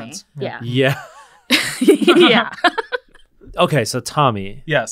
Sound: all chuckling

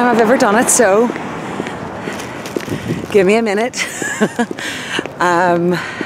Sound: laughs

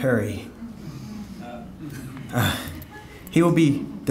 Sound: audience murmuring

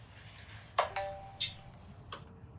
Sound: phone chimes

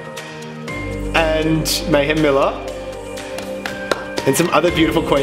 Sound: applauds

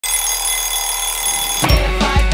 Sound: alarm clock ringing

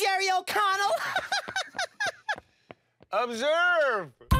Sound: laughs

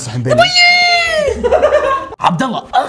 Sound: laughter

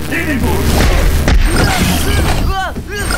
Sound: whimpering

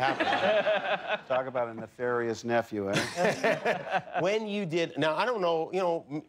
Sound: laughter

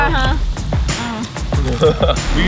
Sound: munching; laughing

